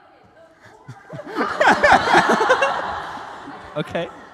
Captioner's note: laughter